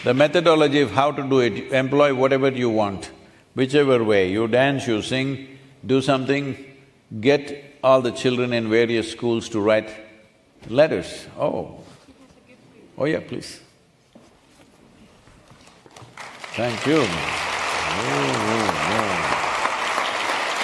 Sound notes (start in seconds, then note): 15.9 applause